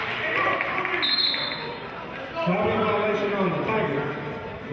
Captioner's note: whistling